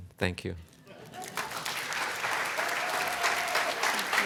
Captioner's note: applause